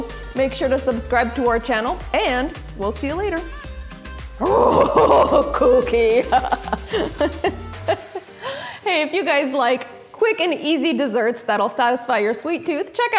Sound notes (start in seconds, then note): 7.0 laughing